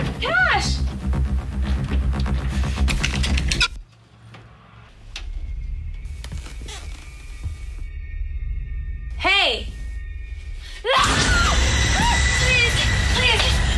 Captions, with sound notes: CASH Hey! (loud, jarring sound) Please! Please!